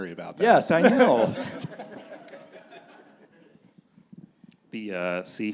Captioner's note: panelists and audience laughing